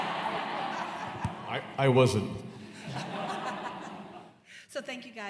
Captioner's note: laughter